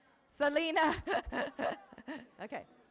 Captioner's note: laughs